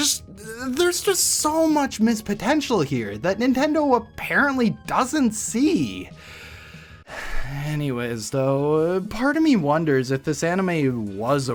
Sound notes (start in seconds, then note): 7.0 sigh